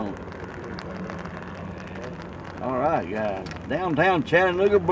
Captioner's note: boat and Rain Sounds